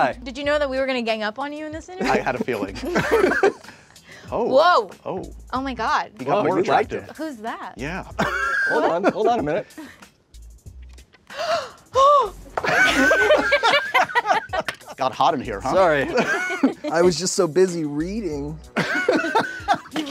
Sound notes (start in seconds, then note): 2.0 all laughing; 8.1 laughs; 11.2 gasps; 12.6 all laughing; 15.8 laughs; 18.9 all laughing